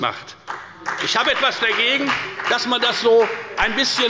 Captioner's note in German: Beifall bei der FDP